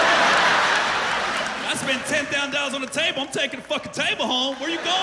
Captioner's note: laughter